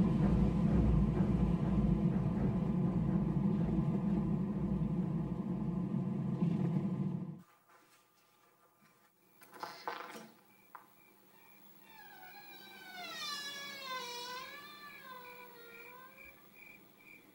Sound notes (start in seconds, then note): 10.1 door Creaks Open; 11.8 hinges Squeak